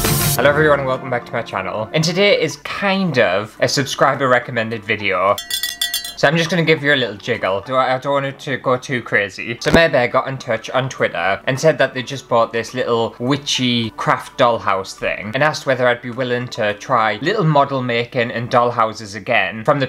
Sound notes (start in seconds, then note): 5.4 cow Bell Jingle